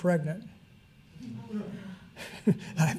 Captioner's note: audience laugh